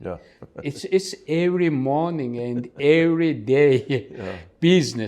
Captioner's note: laugh